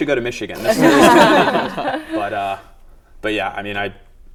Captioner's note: laughter